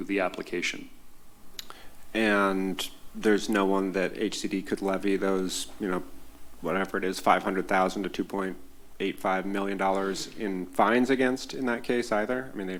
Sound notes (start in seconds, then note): none